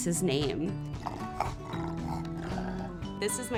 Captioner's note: dog grunting